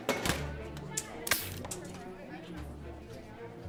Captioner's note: can pops